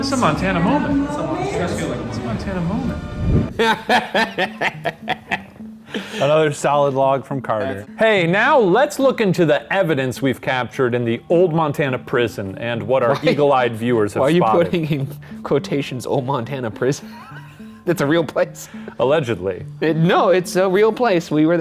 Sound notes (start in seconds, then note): 3.5 both laughing; 17.0 laughing